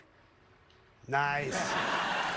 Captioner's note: laughter